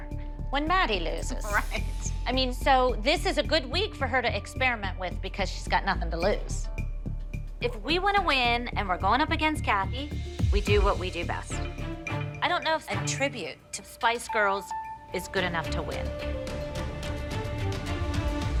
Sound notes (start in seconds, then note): none